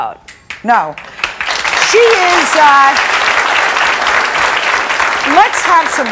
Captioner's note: audience clapping